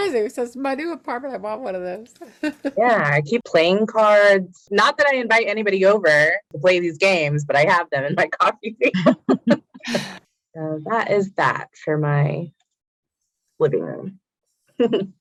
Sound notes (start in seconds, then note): 2.2 laughs; 8.9 laughs; 14.9 laughs